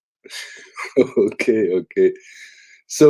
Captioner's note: laughs